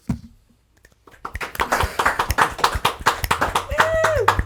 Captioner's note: people clapping